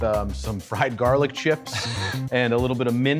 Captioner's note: laughing